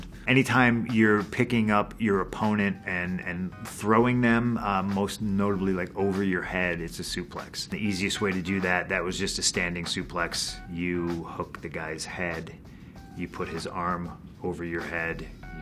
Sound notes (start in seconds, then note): none